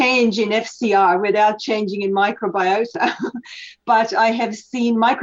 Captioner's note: laughs